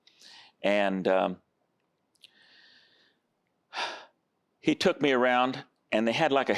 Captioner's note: sighs